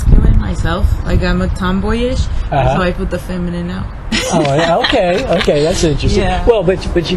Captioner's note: laughs